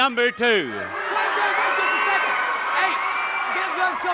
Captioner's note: audience cheering